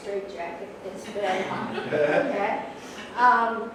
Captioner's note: crowd laugh